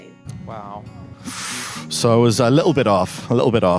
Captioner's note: sucks in breath